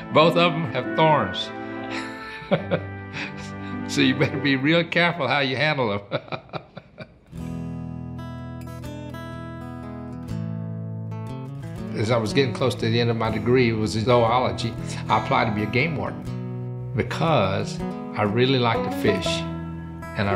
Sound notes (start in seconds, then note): 1.9 laughs; 6.0 laughs; 7.6 gentle music